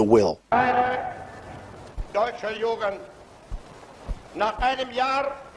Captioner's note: speaks foreign language